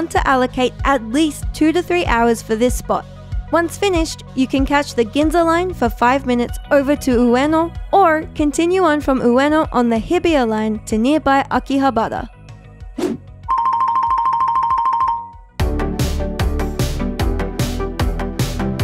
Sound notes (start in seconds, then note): 12.9 screen whooshing; 13.5 bell ringing; 16.1 upbeat music